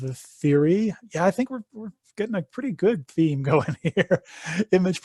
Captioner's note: laughs